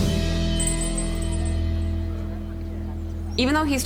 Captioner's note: bell rings